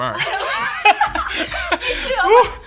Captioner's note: both laughing